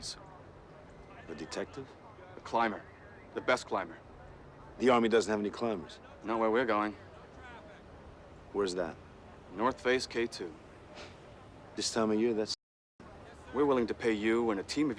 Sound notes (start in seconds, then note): 10.5 scoffs